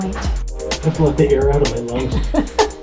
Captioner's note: laughter